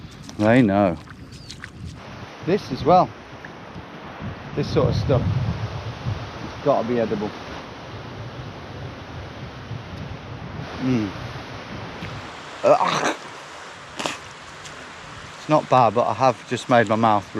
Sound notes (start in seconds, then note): 12.6 retches